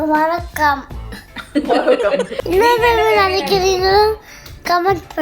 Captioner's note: laughs